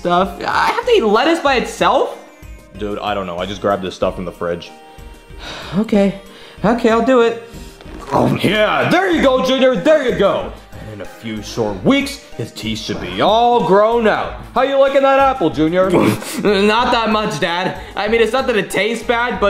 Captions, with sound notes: I have to eat lettuce by itself. - Dude, I don't know. I just grabbed this stuff in the fridge. - (sighs) Okay. Okay, I'll do it. (munches) - Yeah, there you go, Junior. There you go. And in a few short weeks, his teeth should be all grown out. How you liking that apple, Junior? - Not that much, Dad. I mean, it's not that it tastes bad,